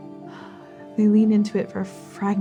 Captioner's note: exhaling